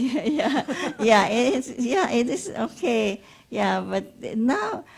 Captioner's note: laughs